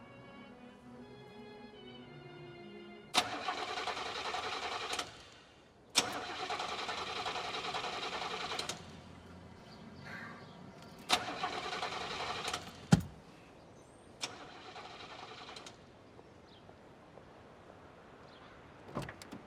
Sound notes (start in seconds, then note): 3.1 car engine trying to start; 10.8 engine rattling; 14.2 trying engine again